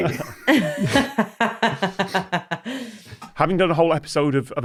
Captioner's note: laughs